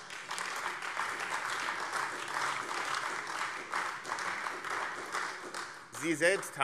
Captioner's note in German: Beifall AfD